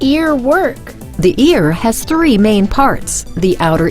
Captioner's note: voiceover